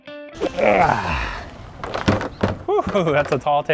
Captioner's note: grunting